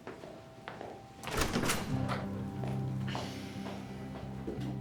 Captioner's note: footsteps receding, music playing; door opens, shuts